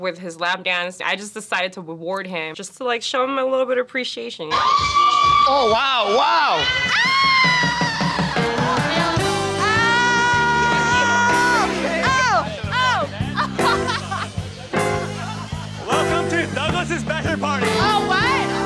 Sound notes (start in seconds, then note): 7.2 cheering